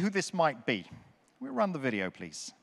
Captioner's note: none